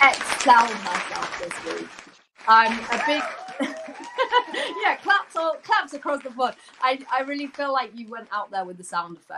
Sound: applause

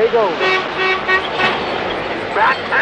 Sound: horn honking

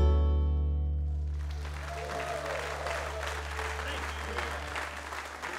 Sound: audience applauding

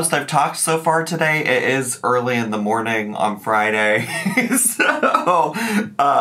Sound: laughing

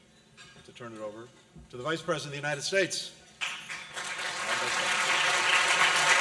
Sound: applause

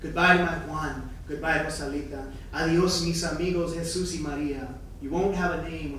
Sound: speaking in foreign language

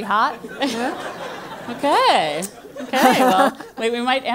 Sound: laugh

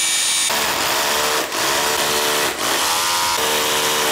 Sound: electric Drill Running

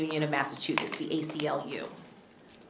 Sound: none

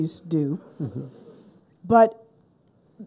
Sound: people laughing

